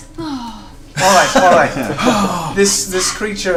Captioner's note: laughs